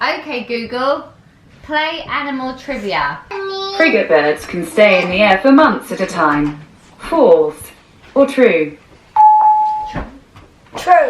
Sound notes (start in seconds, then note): 9.1 Google Assistant beeping